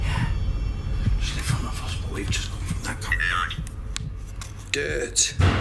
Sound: whispering

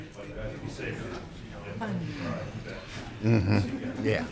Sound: chattering

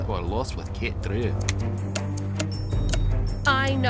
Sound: switches flipping

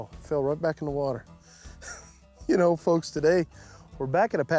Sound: chuckles

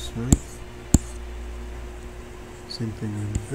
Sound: computer mouse tapping

